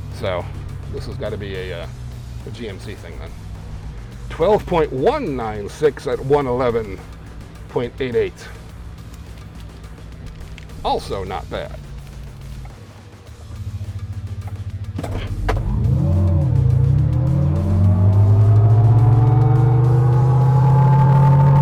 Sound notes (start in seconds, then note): 8.5 upbeat music; 12.5 upbeat music; 15.3 motor revving